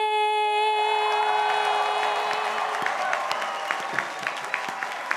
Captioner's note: crowd applauding